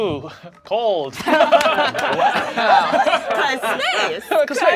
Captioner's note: group laughs; laughs; overlapping chattering